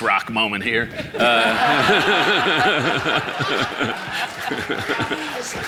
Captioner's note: audience laughing